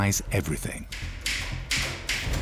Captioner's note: typewriter clacks